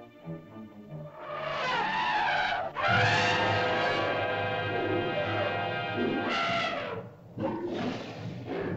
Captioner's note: tense music; dramatic music; mastodon bellows; mastodon grunts & growls